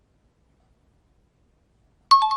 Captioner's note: out of time alarm